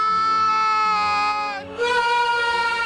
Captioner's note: screaming